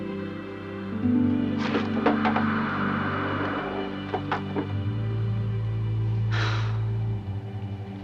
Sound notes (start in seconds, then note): 6.3 sigh